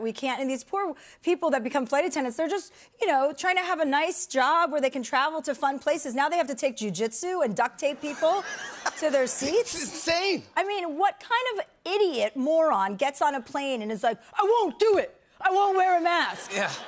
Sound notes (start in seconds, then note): 7.9 laughter